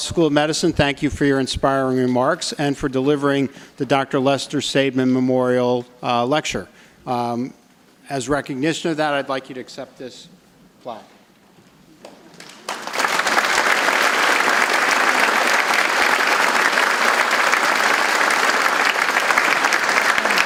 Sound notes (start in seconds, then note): 12.2 audience applauds